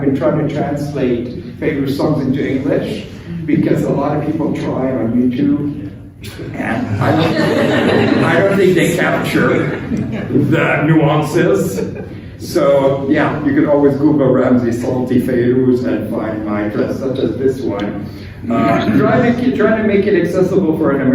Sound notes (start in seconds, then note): 6.9 laughter